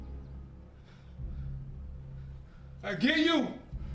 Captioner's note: panting